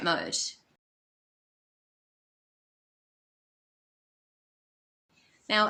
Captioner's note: silent